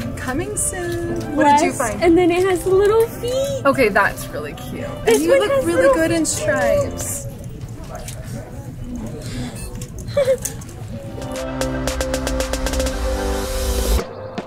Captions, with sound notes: "Coming soon". What did you find? - And then it has little feet! - Okay. That's really cute. And you look really in stripes. (laughing) (upbeat music)